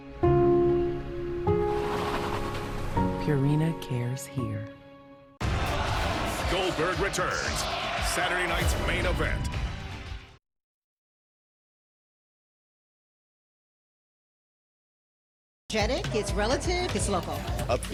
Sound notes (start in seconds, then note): 5.4 cheering